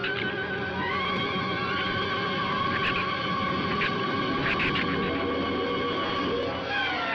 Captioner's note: shrew squeaking